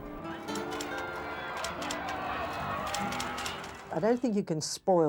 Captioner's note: children chattering